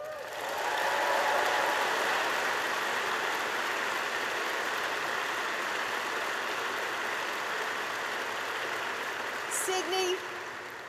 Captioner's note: applause